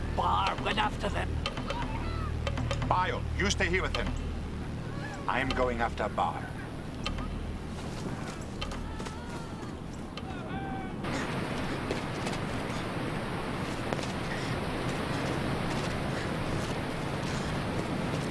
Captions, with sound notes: Barr went after them. - Bayu, you stay here with him. I am going after Barr. (running footsteps) (water running) (footsteps)